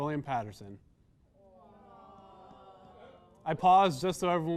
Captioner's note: "awwws" from audience